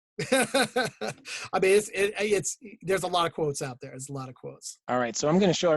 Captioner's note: laughs